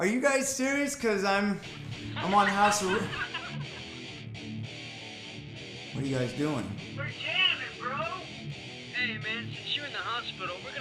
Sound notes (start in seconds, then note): 3.6 laughter